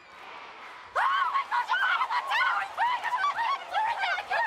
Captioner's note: screaming